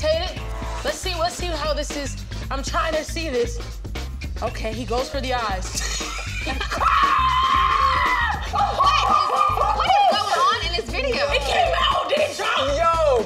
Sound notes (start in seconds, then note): 5.8 laughing; 6.6 shrieking